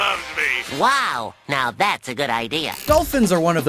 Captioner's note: SpongeBob voice